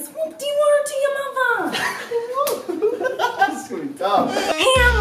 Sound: laughter

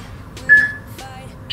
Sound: peep

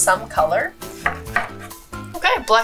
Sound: cutting

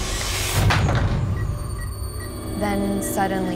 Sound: beeping; ominous music

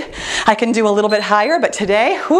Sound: timer beeps

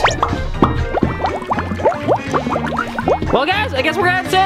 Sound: water bubbling

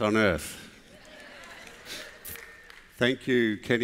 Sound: applause

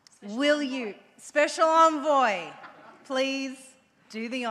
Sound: audience laughs

